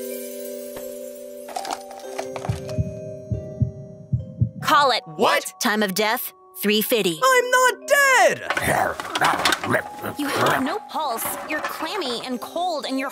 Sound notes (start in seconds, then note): 2.4 heartbeat thumping; 8.5 Pakkun munching